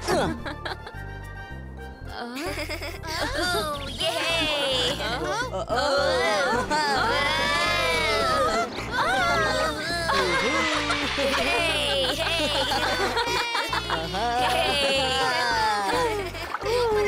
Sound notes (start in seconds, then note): 5.6 screaming